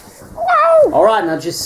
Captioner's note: neigh